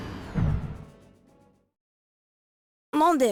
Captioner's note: silence